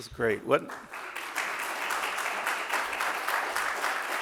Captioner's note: audience claps